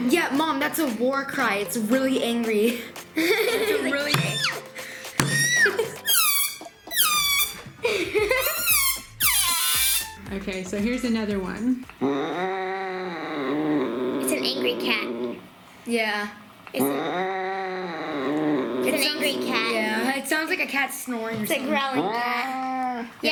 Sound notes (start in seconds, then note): 4.4 laughing; 7.3 squeaking